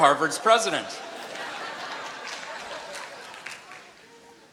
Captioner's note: laughter